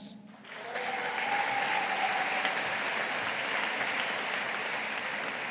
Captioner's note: audience applauding